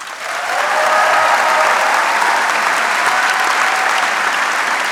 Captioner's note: audience cheering